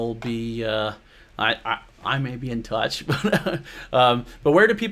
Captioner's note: laughs